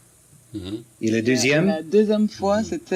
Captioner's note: speaks in French